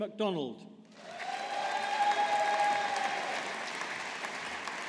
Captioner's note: audience applauding